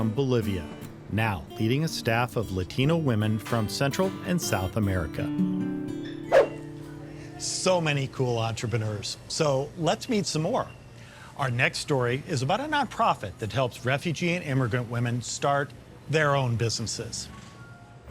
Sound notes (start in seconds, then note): 5.6 upbeat music; 6.4 swoosh; 6.9 gentle music; 17.4 gentle music